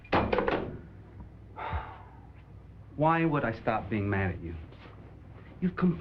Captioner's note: sighs